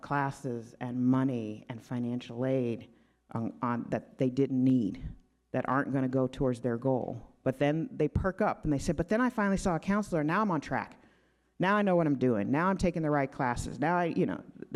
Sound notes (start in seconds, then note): none